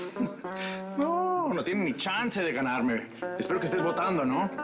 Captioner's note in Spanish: Risas